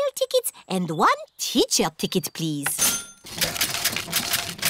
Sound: cash register dings

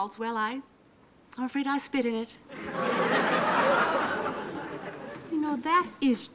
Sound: audience laughing

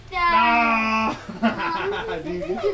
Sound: laughs

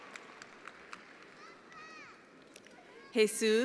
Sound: attendees applauding

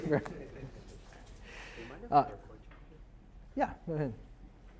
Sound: chuckles

